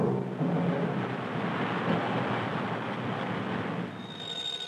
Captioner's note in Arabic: حركة المرور الصاخبة